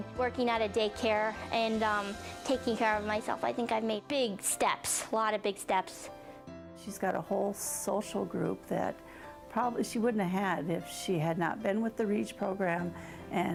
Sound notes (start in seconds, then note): none